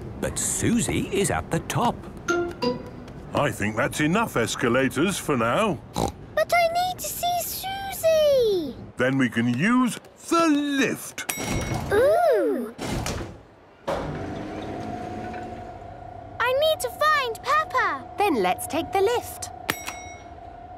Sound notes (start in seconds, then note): 11.3 lift pings; 13.8 lift moving; 19.4 lift pings